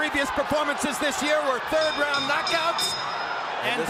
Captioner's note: bell dings